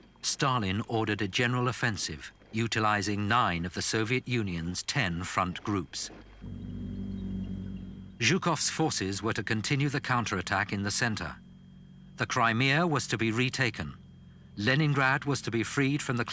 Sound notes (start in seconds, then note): 6.6 engine rumbling; 6.6 wheels squeaking